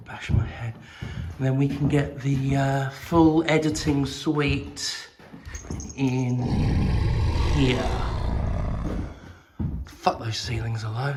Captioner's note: growling noises